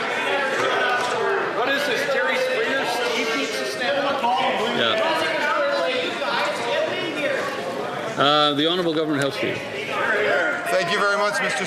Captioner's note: some Applause